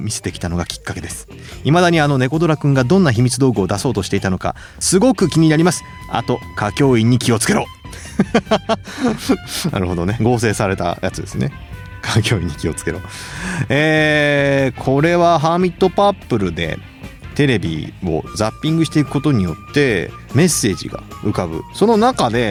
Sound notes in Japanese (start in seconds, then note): 7.8 笑い